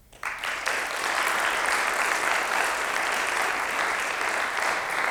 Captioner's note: audience applauds